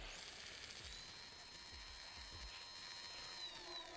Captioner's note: camera whirring